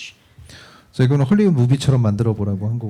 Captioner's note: speaking korean